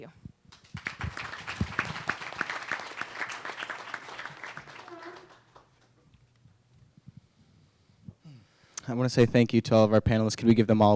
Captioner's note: applause